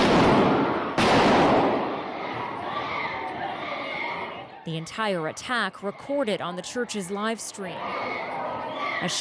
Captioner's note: gunshots